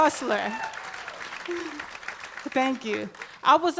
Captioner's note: applause